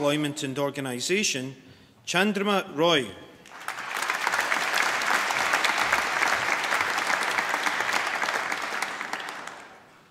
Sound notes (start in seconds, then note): 3.4 applause